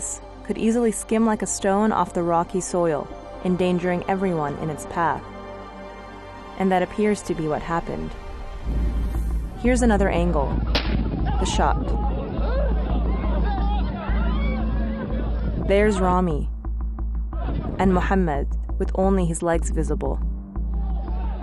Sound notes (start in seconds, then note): 10.6 gunfire; 12.6 shouting